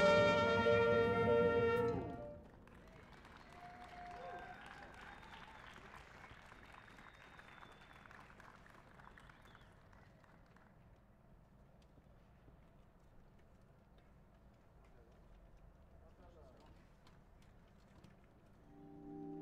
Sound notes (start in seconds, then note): 2.4 song ends, cheers and applause